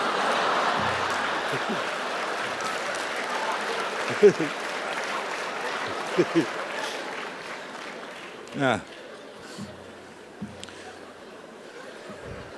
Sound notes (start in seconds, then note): 4.7 applause; 4.7 laugh